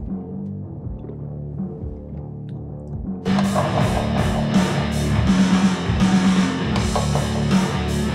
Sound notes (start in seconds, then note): 3.2 hard rock continues; 6.8 knocking